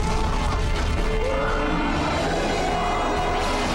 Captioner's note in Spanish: rugido